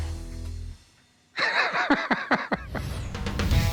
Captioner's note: laughing